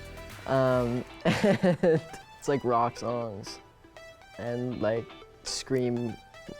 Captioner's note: laughing